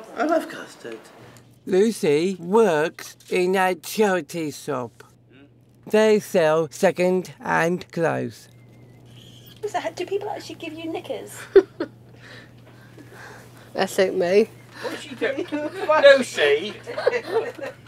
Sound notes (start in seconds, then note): 11.3 laughs; 14.6 laughs